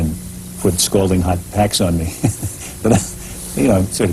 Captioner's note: laughs